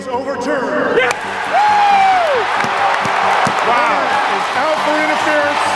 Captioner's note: cheering